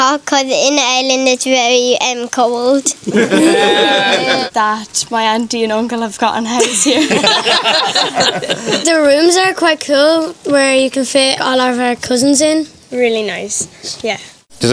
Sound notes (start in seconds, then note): 3.0 everyone laughs; 6.6 everyone laughs